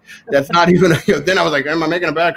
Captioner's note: laughing